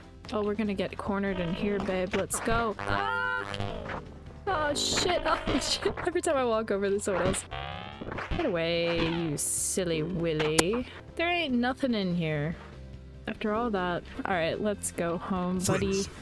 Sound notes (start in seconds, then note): 2.9 robot voice for some reason